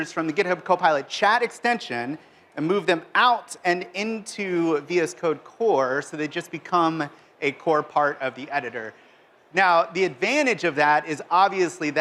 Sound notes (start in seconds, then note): none